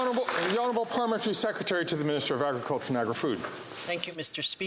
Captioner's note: some Applause